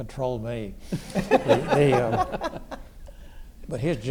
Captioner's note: Neil laughs